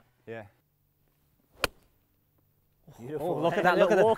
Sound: hitting ball

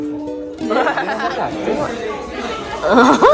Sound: laugh

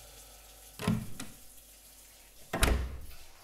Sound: door opens and slams

